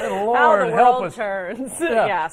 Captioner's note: laughter